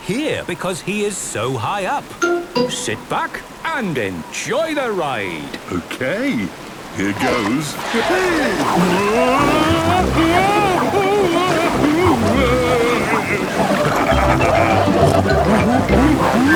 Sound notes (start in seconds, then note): 10.2 Daddy Pig shouting; 13.7 laughing, snorting